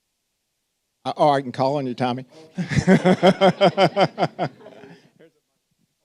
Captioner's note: audience laughing